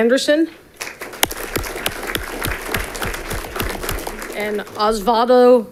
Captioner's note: audience clapping